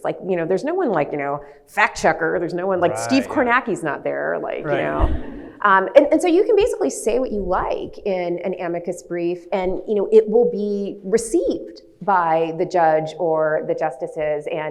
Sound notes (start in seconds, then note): 4.9 audience laughs